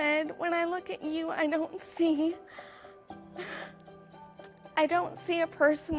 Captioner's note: exhales